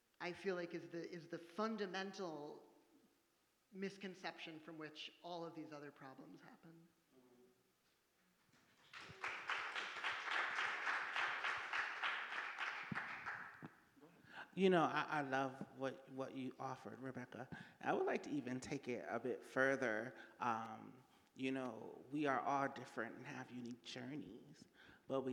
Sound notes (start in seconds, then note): 8.8 audience applauding